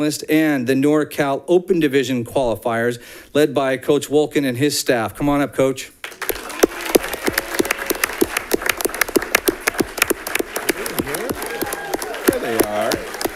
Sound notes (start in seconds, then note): 6.0 audience clapping; 6.2 audience cheering